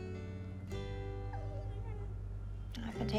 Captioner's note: willis whimpers